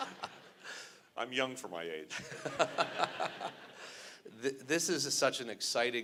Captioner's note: laughter; laughter